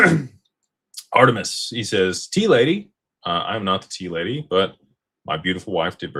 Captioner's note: clears throat